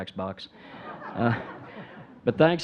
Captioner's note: audience chuckling